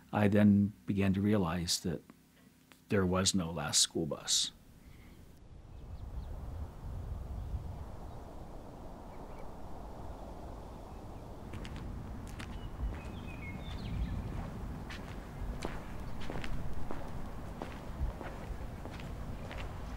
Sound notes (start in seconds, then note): 13.5 footsteps